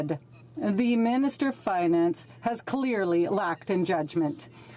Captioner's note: speaking French